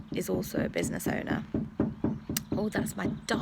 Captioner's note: rapid tapping